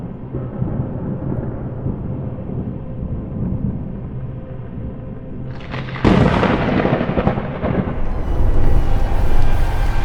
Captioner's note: tense atmospheric music; thunder rumbles